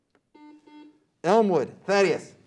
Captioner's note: beep